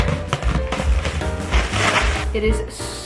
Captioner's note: plastic crinkles